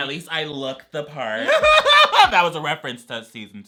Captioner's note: laughs